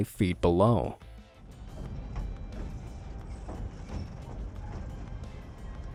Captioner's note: train engine revving